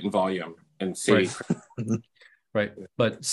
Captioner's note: laughs